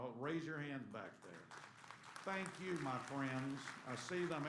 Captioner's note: applause